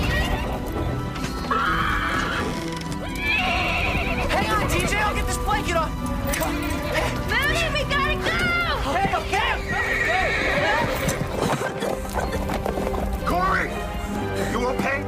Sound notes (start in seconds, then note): 11.3 coughing